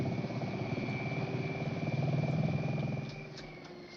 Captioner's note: motor whirring